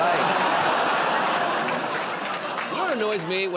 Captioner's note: laughter, groaning